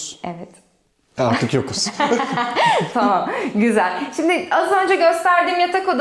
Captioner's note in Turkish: kahkaha